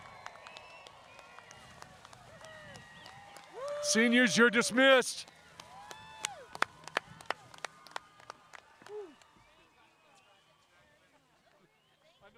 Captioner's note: cheering and applause